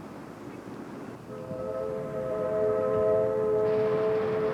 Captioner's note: train whistle blows